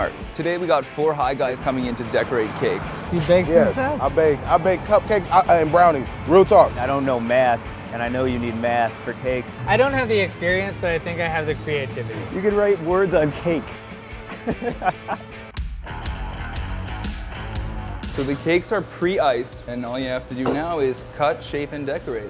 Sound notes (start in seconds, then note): 14.2 laughs; 15.5 upbeat rock music